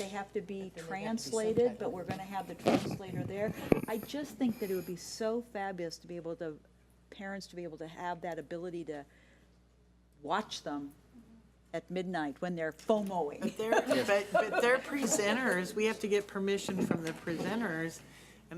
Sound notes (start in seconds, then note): 13.5 laughs